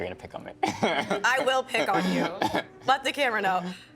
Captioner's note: laughing